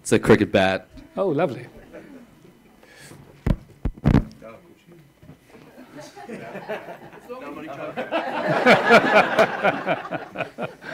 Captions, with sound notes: It's a cricket bat. - Oh, lovely. (murmuring and laughing)